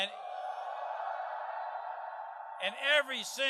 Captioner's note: crowd